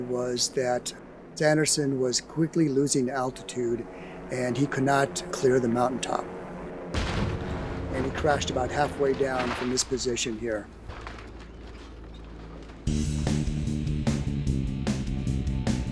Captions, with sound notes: was that Sanderson was quickly losing altitude and he could not clear the mountaintop, (aircraft explodes) and he crashed about halfway down from this position here. (energetic music)